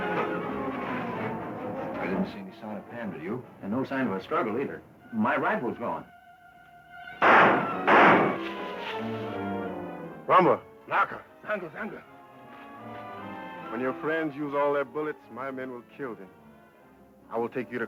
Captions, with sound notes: - I didn't see any sign of Pam, do you? - And no sign of a struggle, either. And my rifle's gone. (guns firing) (leaves rustling) - Noma, Naka. (man speaking foreign language) When your friends use all their bullets, my men will kill them. I will take you to Croca,